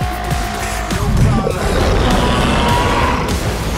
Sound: bellows; roars

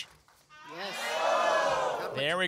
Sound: audience shouts i-o

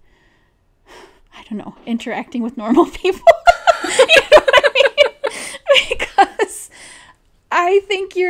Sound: both laugh

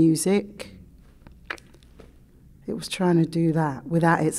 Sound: clicks

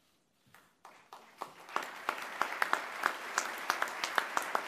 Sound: applause

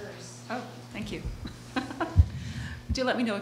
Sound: laughing

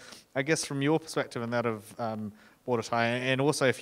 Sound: speaking in foreign language

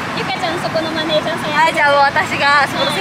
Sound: laughs

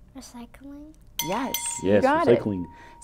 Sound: bell rings

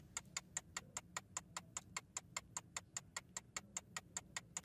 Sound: timer ticking

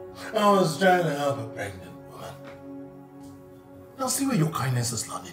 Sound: speaking mockingly

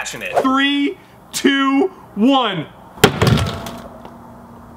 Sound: hammer bang

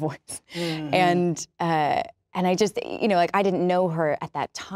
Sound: laughs

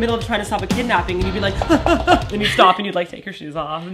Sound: running sounds

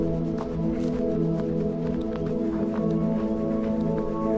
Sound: footsteps crunching

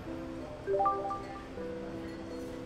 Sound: phone chiming

